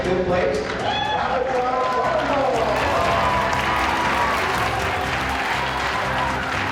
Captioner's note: applause